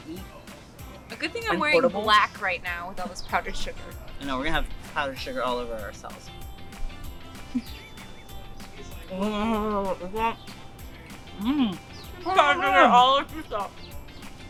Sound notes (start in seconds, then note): 9.0 mumbling